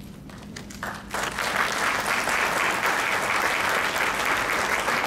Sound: crowd clapping

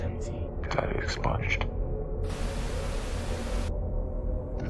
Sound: static

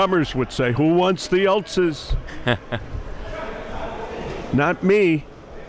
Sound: laughing

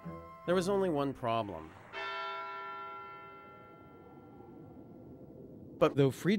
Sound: bell tolls

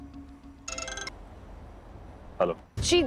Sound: phone ringing

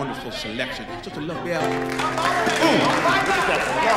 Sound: applause

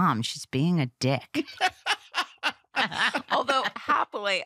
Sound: laughter

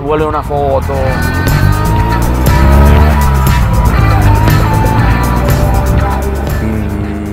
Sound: 126 Gianninis revving

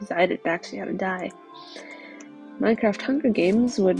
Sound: inhale

